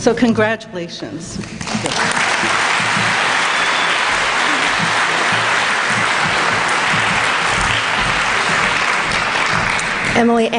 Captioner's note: applause